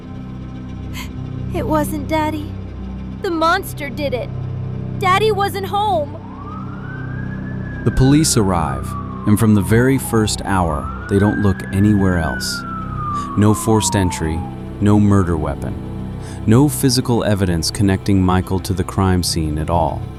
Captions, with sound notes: [crying] It wasn't Daddy. The monster did it. Daddy wasn't home. [siren wailing] The police arrive, and from the very 1st hour, they don't look anywhere else. No forced entry, no murder weapon, no physical evidence connecting Michael to the crime scene at all.